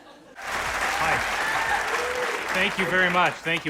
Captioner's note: cheers and applause